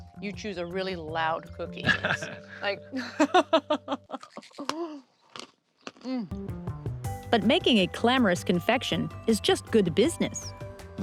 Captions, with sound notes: you choose a really loud cookie. [ Laughs ] [ Cookie crunches ] Mmm! But making a clamorous confection is just good business.